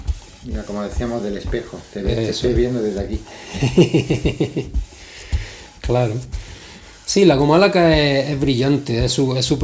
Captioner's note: laughs